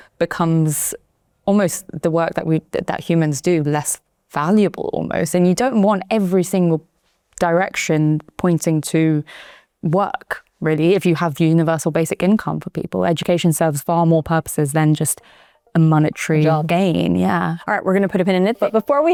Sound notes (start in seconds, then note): none